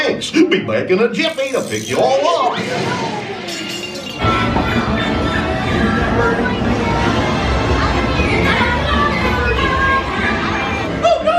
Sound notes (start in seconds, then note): 3.4 glass clattering